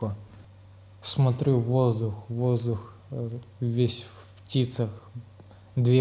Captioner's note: drones